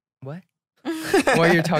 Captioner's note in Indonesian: tertawa